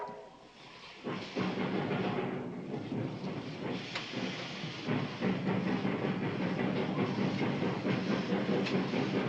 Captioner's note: train whistling; train rattling